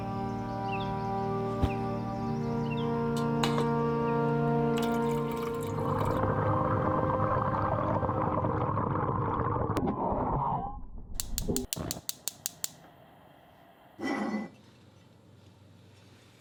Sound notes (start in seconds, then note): 4.7 water pours; 6.5 bubbling; 11.2 stove flicks